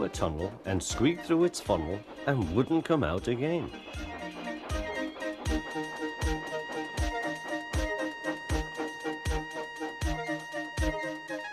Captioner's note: Edward's whistle blows